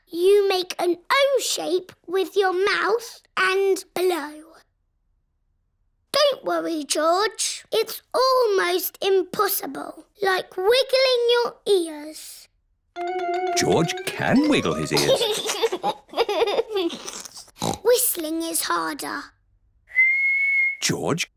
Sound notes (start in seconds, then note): 4.8 silence; 14.2 giggles; 16.9 snorts; 19.9 whistling